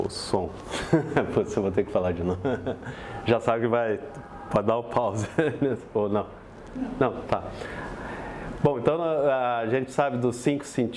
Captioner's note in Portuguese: risos